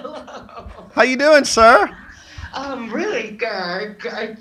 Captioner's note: laughs